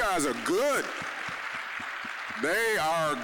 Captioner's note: applause